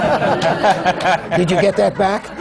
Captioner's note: laughter